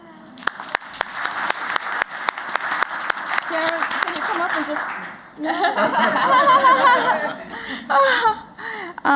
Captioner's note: applause